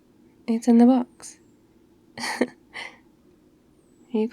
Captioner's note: laughs